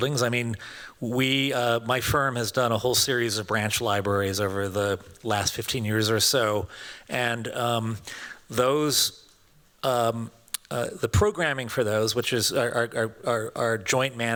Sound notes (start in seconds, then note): none